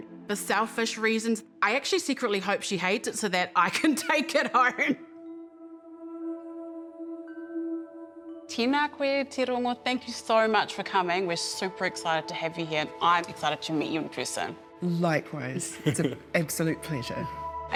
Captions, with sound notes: For selfish reasons, I actually secretly hope she hates it so that I can take it home. (CHUCKLES) (ETHEREAL MUSIC) Tēnā koe Te Rongo, thank you so much for coming. We're super excited to have you here, and I'm excited to meet you in person. - Likewise. It's an absolute pleasure